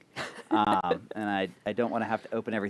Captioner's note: laughter